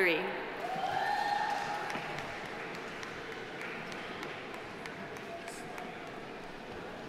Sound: audience cheering; audience applauding

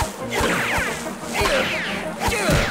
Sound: grunting

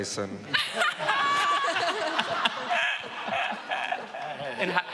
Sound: laughing

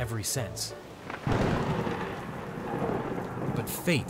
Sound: thunder cracks

